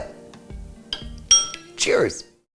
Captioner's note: spoon dings